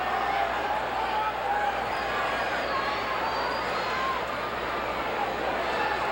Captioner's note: audience cheering continues